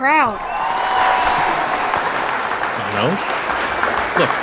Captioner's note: crowd murmurs expectantly, clapping, in bg